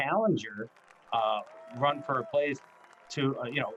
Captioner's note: crowd applauding